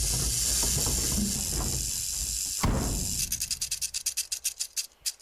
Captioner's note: snake rattling